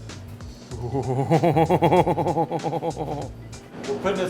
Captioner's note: laughs excitedly